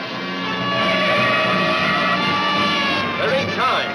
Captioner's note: tires screech